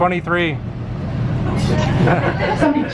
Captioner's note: laughter